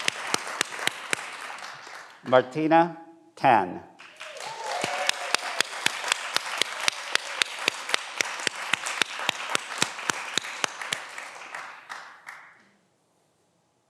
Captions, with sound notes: Martina Tan. (everyone applauds)